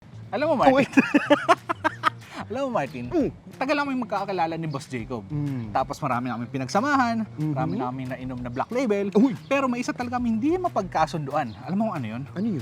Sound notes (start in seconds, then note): 0.7 laughs